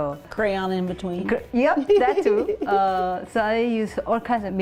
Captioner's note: laughing